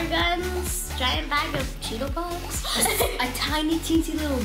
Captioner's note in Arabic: يضحك